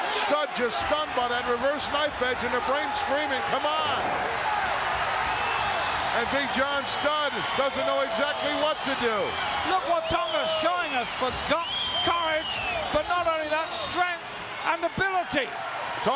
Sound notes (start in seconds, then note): 5.3 audience cheering